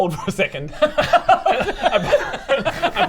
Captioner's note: giggles